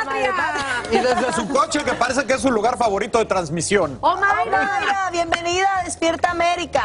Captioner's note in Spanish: risas